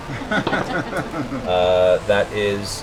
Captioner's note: laughter